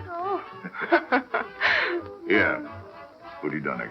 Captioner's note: laughing